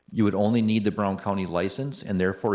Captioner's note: none